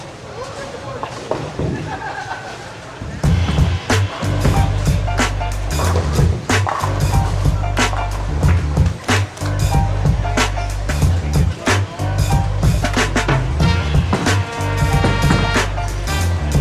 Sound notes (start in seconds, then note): 0.3 bowling pins clinking; 1.4 people laughing; 3.5 upbeat music; 6.2 bowling pins clinking; 13.4 upbeat jazz music